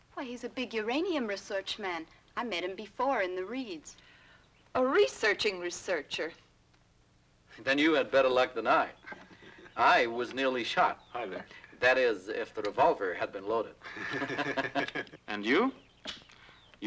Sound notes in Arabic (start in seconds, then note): 13.8 يضحك